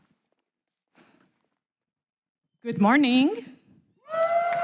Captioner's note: applause